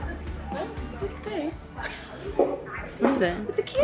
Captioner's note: laughs